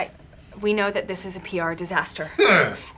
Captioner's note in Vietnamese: tiếng rền rĩ